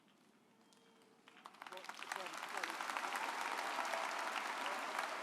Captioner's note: audience applauding